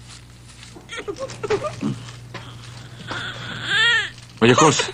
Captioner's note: baby crying